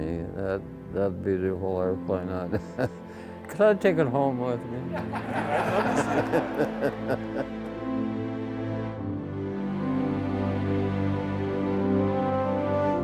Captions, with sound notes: That beautiful airplane... Can I take it home with me? (audience laughing) (upbeat music)